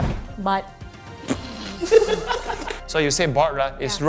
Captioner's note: laughing